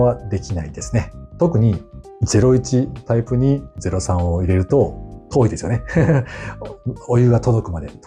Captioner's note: laughs